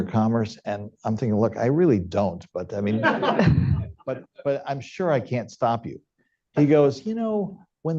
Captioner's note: laughter